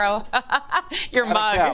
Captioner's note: laughs